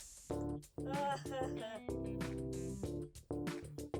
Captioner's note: sobs